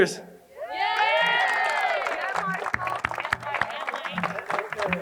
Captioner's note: crowd cheering and applauding